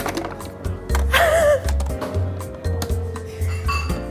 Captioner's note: laughs